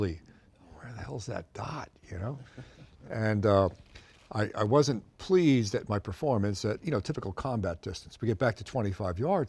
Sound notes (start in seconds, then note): 2.3 chuckles